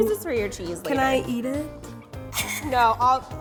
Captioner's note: laughs